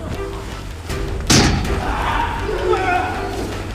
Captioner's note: clanking; men groaning